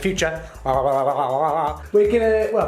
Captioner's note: tongue wagging sound